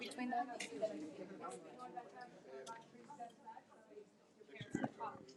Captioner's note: athletes murmur